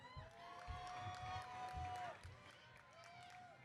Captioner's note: audience cheering